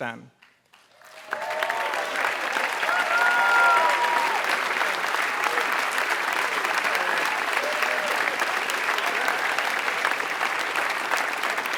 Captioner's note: applause